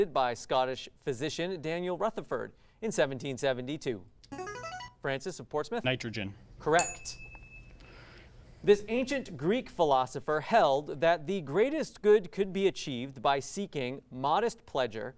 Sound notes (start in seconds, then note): 4.3 ring-in sound; 6.7 ding sound